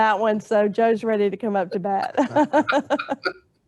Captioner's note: laughs